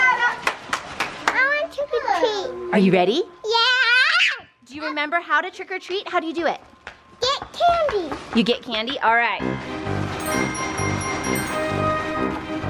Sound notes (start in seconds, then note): 0.4 mother claps; 3.8 screams